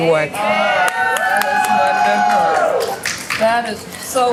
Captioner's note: cheers, applause